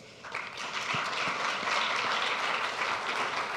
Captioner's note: applause